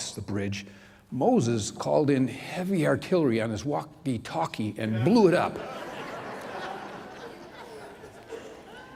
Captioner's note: laughter